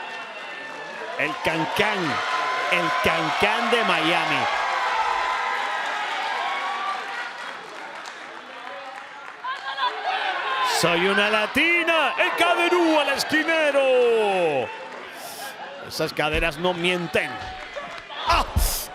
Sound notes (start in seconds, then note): 6.5 applause